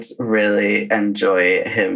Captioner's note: laughs